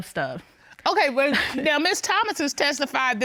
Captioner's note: chuckles